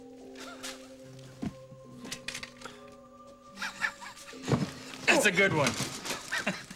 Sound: <i> chuckling</i>

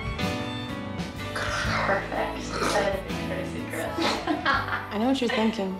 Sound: laughs

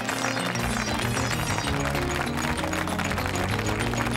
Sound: audience clapping; upbeat music

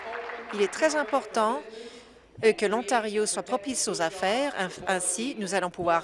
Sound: applause

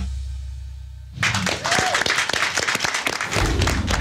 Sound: applause

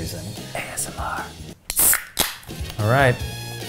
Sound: soda can pops

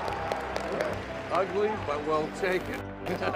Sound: clapping; laughter

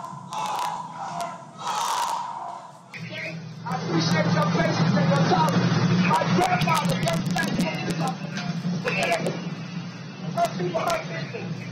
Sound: crowd chanting

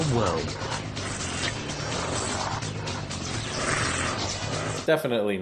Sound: honey badger growling and snarling

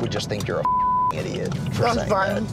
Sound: beeps

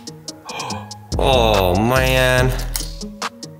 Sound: gasps

